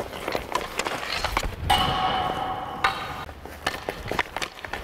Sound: puck hitting pole

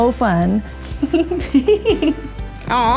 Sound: laughter

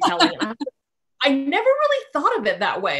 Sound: laughing

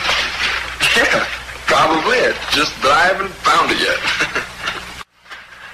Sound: chuckling

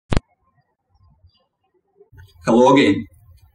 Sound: birds chirping

